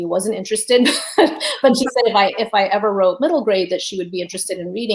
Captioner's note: laughs